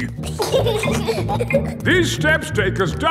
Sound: giggling

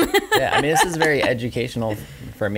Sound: laughing

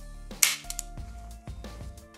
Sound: click

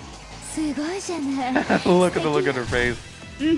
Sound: laughs

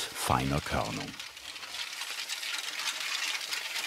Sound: rustling, clanking

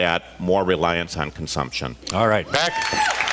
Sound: cheers, applause

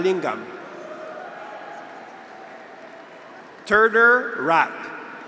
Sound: graduates cheer

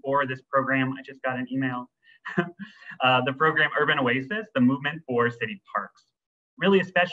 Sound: laughs

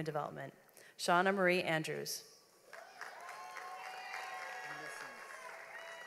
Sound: audience applauds

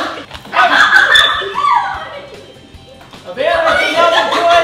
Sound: screaming and laughing

